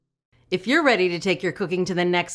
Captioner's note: voiceover